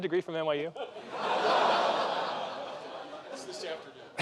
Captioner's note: laughter increases